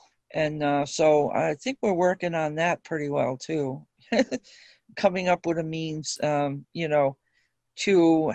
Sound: chuckle

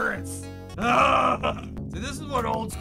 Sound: groan of joy

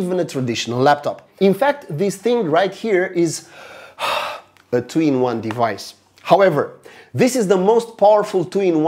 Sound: gasp

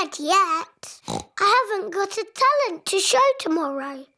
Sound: oinks

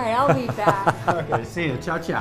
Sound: laughs

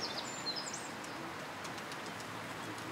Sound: birds chirping

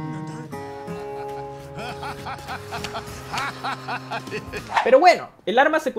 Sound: irrepressible laugh

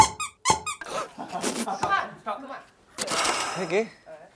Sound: laughing at himself

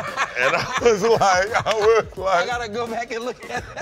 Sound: laughter

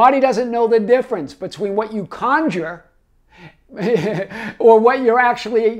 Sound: laughs

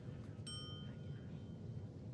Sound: ding

